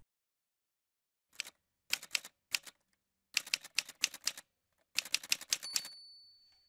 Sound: typewriter sounds

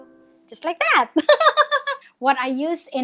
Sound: laughs

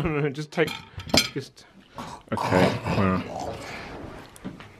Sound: oinking

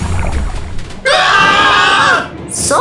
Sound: Aiden and Tom scream

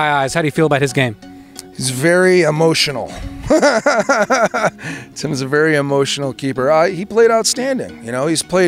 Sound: laughs

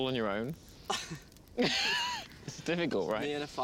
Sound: laughing

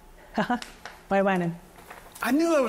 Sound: chuckles

